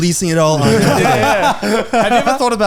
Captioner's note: laughing